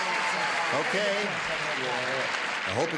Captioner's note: applauding